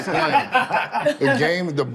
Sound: group laughs

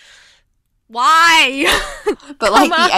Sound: hosts Laugh

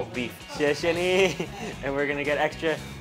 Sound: speaks in Chinese

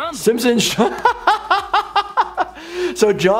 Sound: breaks off laughing

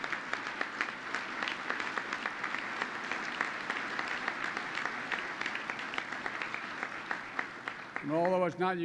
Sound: applause

